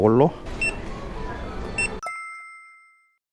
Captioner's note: beep beep